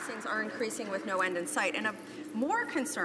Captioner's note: some Applause